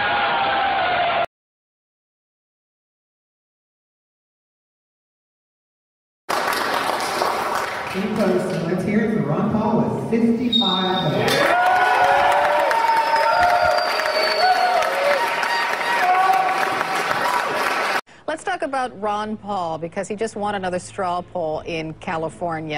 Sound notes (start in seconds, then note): 11.2 cheers and applause